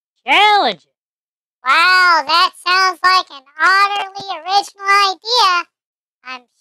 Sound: sarcastic

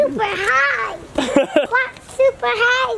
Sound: laughs

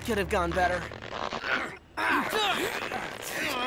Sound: grunting

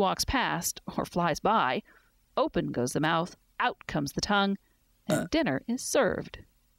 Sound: burp

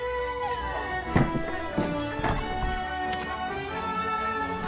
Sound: furniture thuds

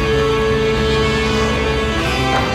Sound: rocket roars; backboard clanks

